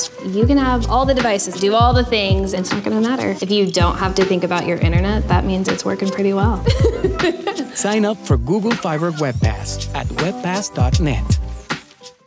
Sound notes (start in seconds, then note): 6.6 laughs